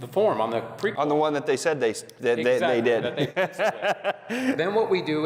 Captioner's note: laughs